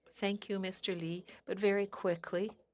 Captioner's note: speaking French